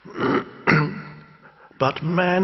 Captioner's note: clearing throat